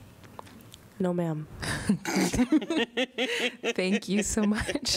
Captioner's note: laughter